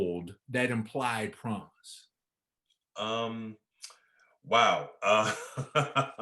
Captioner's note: chuckling